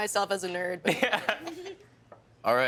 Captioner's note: laughing